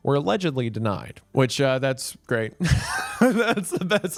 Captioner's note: laughs